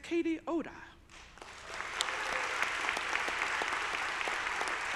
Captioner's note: audience applauding